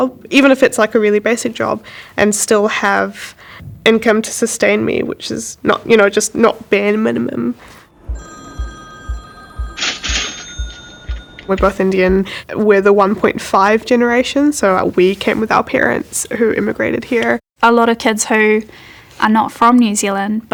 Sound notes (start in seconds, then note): 7.9 phone ringing